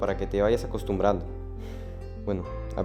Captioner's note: sighs